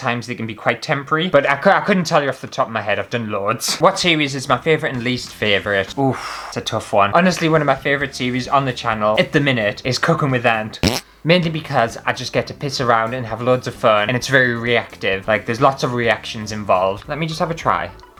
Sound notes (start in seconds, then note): 10.8 fart!